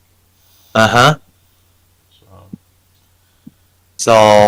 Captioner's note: speaking in foreign language